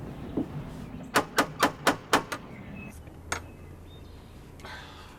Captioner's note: knocking on door